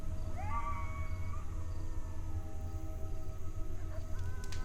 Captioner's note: coyote howling